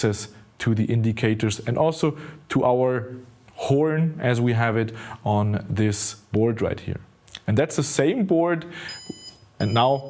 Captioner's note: beep sounds